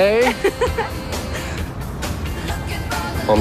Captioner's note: giggling